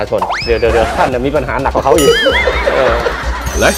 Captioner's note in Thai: เสียงหัวเราะ